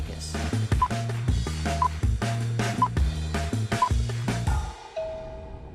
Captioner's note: TV countdown beeping